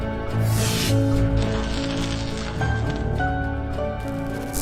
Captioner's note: electricity sizzling